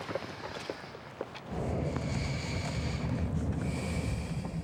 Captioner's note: deep breath